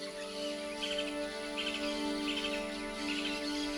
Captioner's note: birds chitter